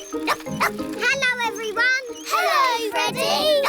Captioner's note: barks